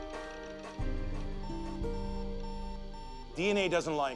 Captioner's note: computer beeping